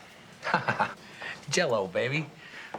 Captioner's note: laughs